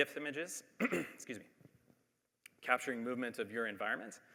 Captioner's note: clears throat